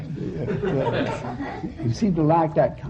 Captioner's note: laughter